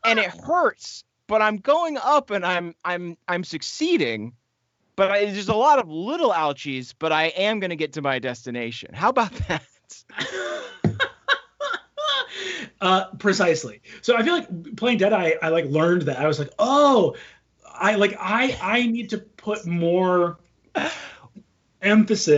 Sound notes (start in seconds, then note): 9.9 all laughing